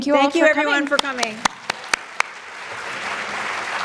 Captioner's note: claps; audience clapping